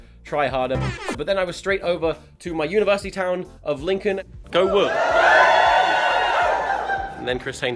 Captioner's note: cheer